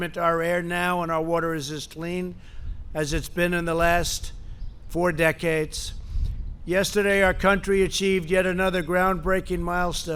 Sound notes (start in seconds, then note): none